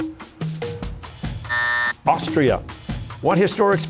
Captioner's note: buzzer